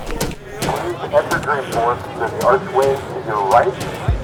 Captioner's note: voiceover